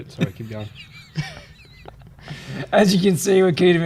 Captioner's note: laughing